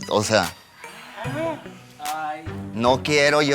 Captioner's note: collective gay gasp